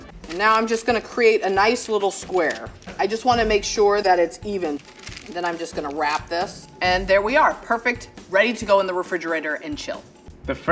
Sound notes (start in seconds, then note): none